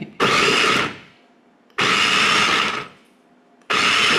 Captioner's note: processor whirring